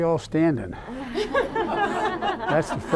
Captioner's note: laughter